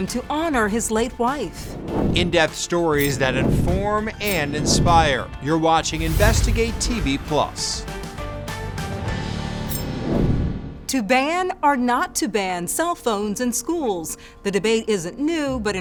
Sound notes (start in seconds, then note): 9.6 air whooshes; 10.7 dramatic music fades